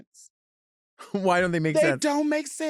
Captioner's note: chuckles